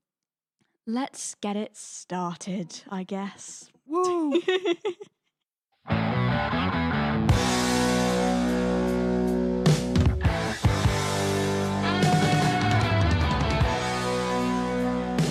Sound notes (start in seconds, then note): 4.0 laughing; 6.1 upbeat music